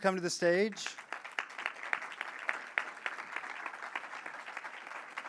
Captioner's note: audience applauds